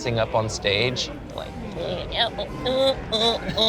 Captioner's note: hums